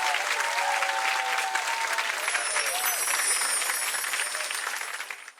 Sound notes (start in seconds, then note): 2.1 chimes